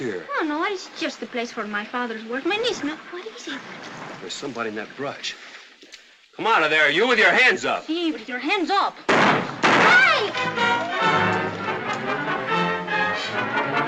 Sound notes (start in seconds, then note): 9.1 gunshots; 10.2 tense music